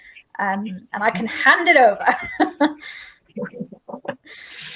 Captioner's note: laughs